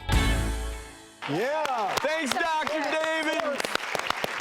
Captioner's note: applause